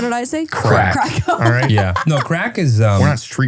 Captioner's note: laughs